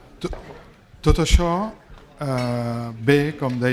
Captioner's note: speaking spanish